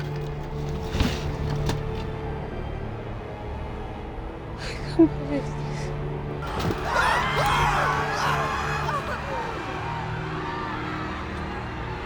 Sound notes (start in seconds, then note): 1.0 Rob thudding to floor; 6.4 people screaming; 6.7 soft tense orchestral music